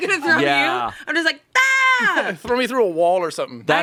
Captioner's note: yells